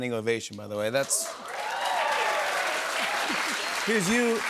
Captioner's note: cheers and applause